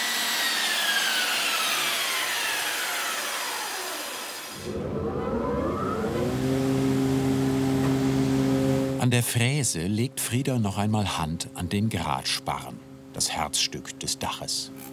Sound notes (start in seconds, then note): 4.9 dull machine noise starts